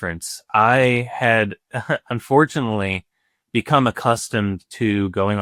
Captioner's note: chuckles